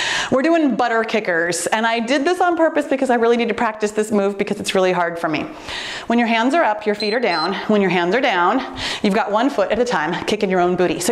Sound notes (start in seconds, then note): 6.9 timer beeps